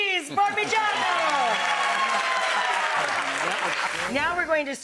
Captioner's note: people cheering